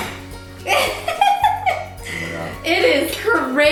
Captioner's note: laughing